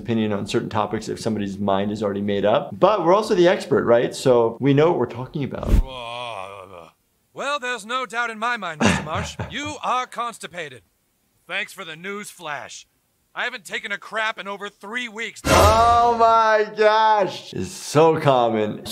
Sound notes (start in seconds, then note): 5.8 grunts; 15.4 intense beat